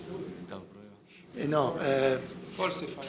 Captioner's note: speaking in foreign language